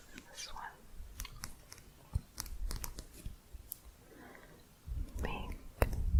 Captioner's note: quick tapping